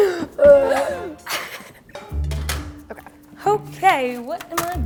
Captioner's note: mummy sounds; laughter